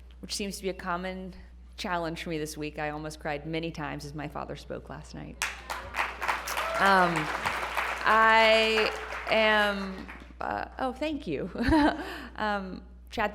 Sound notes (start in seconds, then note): 5.4 applause